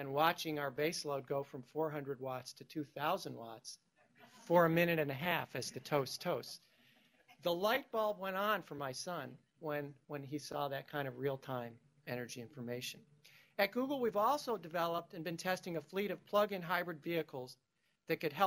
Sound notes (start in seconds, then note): 6.8 laughter